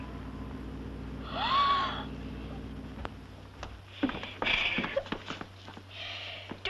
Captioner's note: gasp